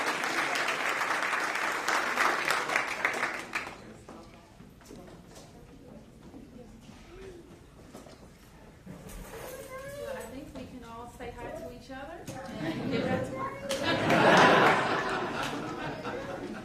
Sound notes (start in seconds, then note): 9.2 laughter